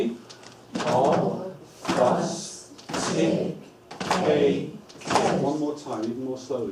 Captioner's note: clapping